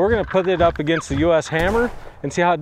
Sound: digital clicking; gunshot blasting

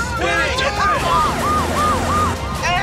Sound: siren

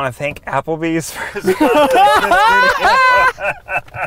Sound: laughs

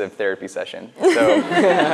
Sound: laughs

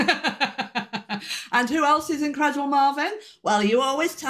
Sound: laughing

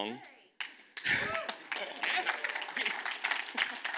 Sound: audience claps

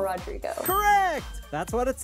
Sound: bell dings

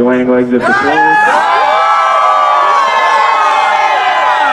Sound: cheering

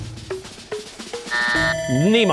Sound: buzzer, bell ringing

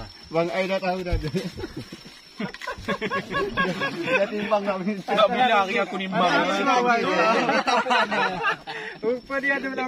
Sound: laughter

